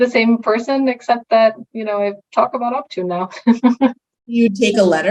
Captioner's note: chuckling